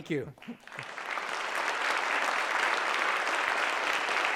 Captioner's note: applause